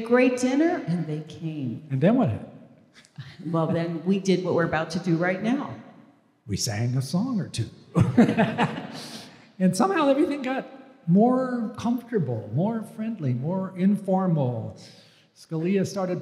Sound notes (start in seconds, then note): 8.0 laugh